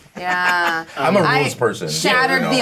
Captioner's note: Bobby laughing